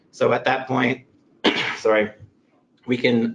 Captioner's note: clears throat